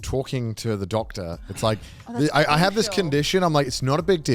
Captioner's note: laughs